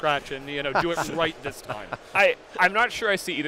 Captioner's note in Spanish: riéndose